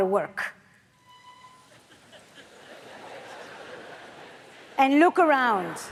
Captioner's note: audience laughs